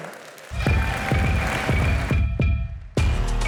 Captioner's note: applause